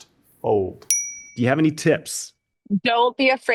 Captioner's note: bell dings